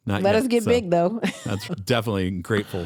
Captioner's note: laughing